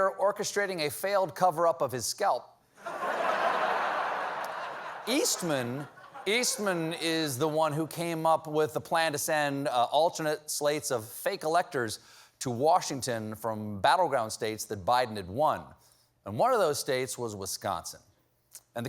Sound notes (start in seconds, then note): 2.8 laughter